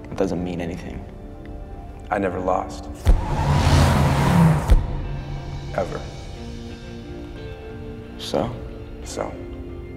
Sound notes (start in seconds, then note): 3.0 tires squealing; 3.0 engines rumbling